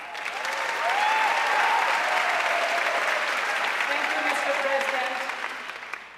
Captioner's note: audience cheering and applauding